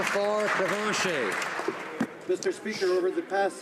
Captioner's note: some Applause